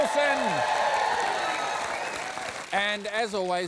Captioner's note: applause